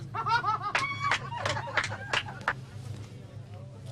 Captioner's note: laughter & clapping